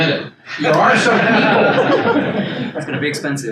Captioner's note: attendees laugh